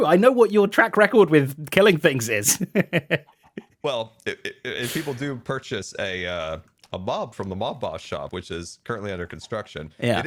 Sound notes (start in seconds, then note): 2.4 laughs